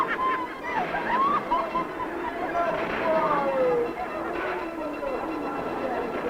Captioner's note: women giggling; carnival announcer shouting